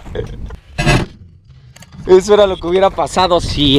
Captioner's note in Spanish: risas extrañas; Explosion en camara lenta